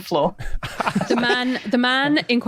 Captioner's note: chuckle